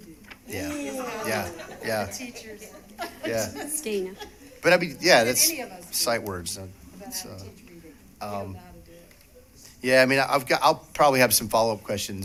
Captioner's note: laughter